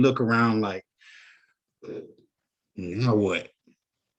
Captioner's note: sighs